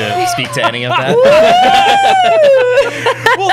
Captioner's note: wooing